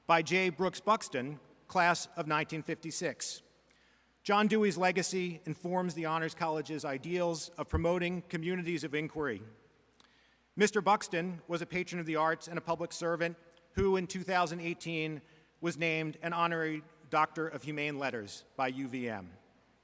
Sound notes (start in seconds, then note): none